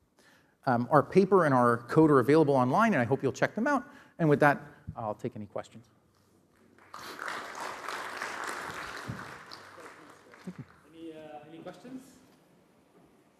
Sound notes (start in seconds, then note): 6.7 applause